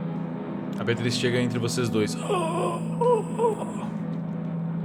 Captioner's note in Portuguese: Grunhidos